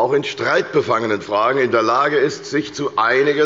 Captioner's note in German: none